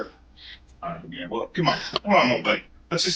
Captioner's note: speaks faintly